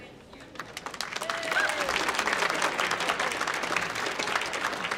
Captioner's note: audience applauding